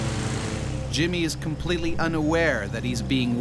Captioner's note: voiceover